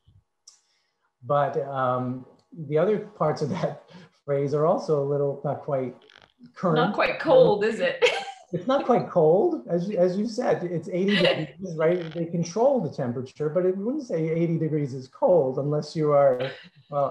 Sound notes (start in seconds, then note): 8.1 laughs